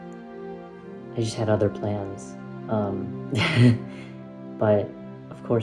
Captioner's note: laughs